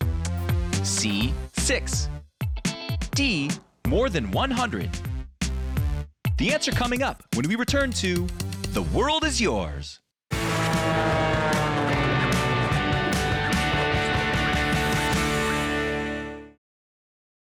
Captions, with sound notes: C, six? D, more than 100? The answer coming up when we return to The World is Yours. (rousing music) (plane engine buzzing)